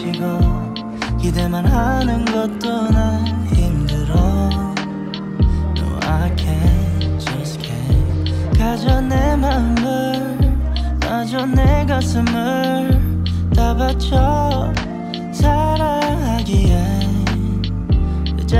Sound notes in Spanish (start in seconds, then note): 8.7 habla extranjera